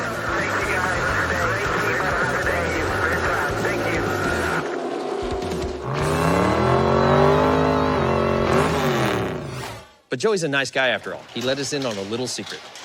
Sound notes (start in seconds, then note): 0.0 radio chatter; 5.2 engine revs